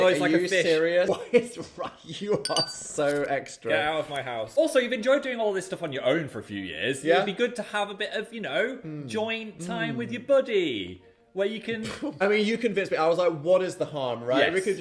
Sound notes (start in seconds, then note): 2.4 glass clinking; 11.8 chuckling